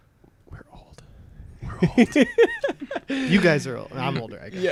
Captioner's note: laughter